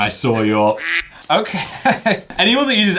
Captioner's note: duck quacks